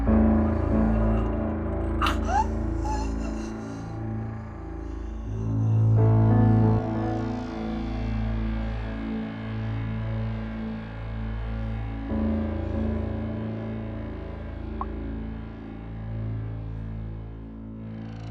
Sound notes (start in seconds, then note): 1.7 Betsy gasping; 6.0 dramatic music; 14.6 dramatic music continues